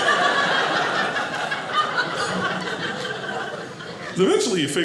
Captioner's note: audience laughing